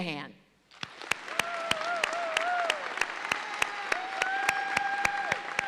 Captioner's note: audience cheers and applauds